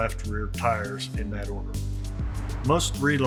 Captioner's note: slide whooshes